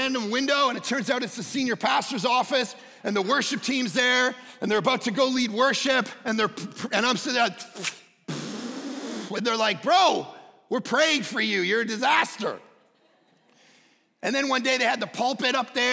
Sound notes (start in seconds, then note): 8.2 puffs